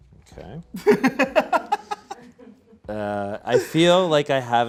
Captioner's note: laughs